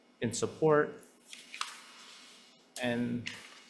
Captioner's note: paper rustling